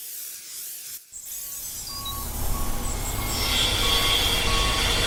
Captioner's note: spray paint can clacking; spray paint can hissing; vehicle beeps